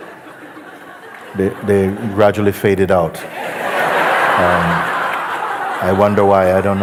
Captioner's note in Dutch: gelach